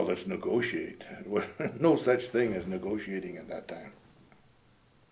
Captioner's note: laughing